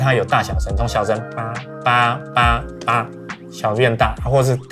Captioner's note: imitates horn sound